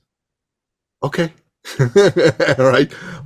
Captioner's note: laughing